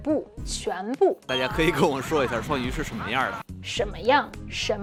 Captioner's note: speaking in Mandarin